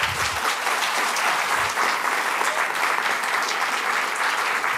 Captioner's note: applause